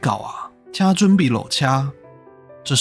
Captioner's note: Taiwanese